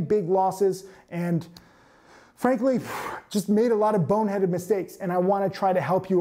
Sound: exhales

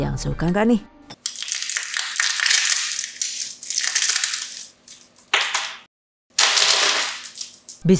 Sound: sfx: crunch

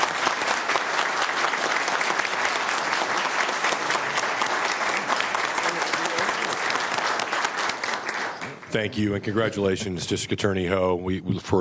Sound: applause

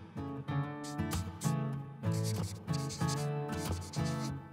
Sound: writing

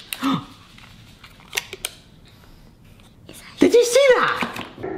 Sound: packaging crackles; gasps

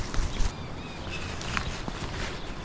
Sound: water splashing

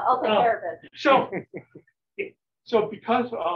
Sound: laughter

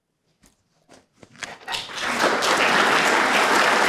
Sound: applause

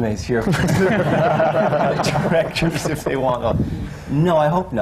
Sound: laughter

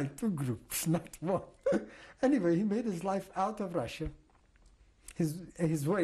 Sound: laughs

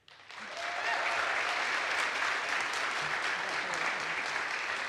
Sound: audience applauds

